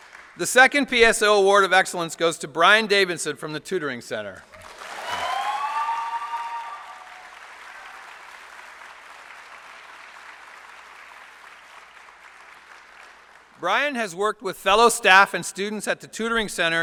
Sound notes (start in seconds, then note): 7.0 applause